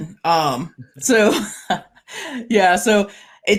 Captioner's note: both chuckling